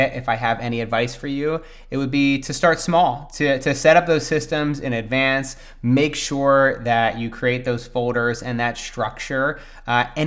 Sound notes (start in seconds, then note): none